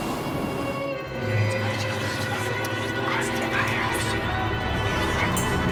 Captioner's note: ghostly whispering